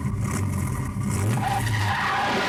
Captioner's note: tires screeching